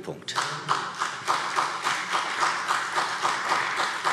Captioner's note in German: Beifall